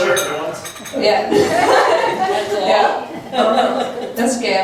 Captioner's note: laughs